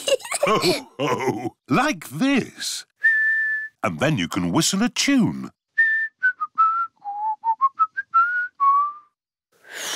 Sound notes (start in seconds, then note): 0.0 laughter; 3.0 whistles; 5.7 whistles a tune; 9.7 failed whistle